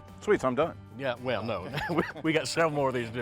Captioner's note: chuckles